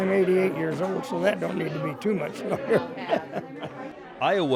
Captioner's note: laughs